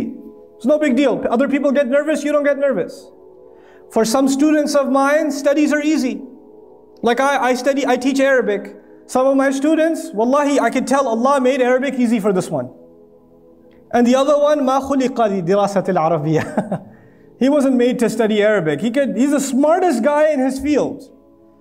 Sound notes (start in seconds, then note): 16.0 Arabic